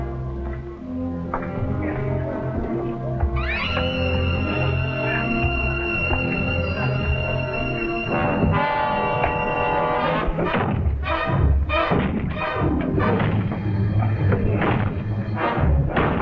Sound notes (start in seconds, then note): 2.9 worrying music; 10.1 knocking down the wall